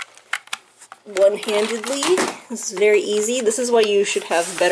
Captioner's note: sarcasm